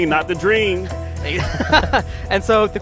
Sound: laughs

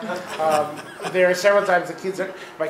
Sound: laughing

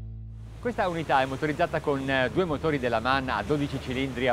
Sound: speaking in Italian

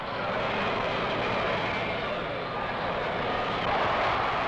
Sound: crowds clamoring

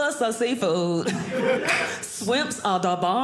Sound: clicks tongue

